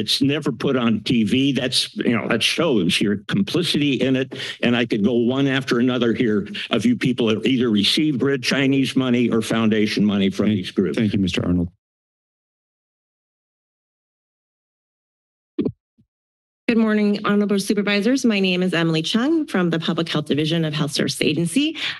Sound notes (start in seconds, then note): 15.4 mic thumps